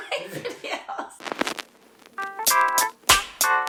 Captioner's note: laughing; upbeat music